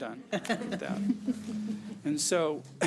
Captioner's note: laughing